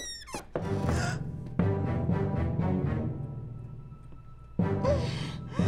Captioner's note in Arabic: أنجيلا تلهث; موسيقى أوركسترالية درامية